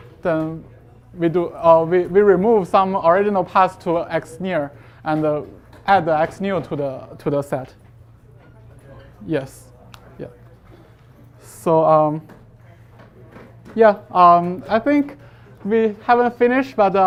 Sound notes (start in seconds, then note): 9.7 students murmuring